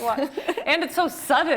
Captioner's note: laughs